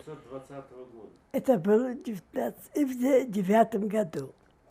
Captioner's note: mumbling